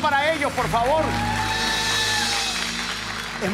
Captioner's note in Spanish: Ovación